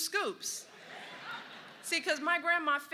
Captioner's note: laughter